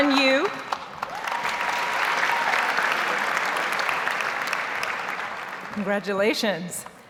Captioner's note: audience cheers and applauds